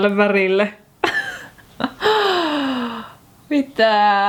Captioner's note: giggles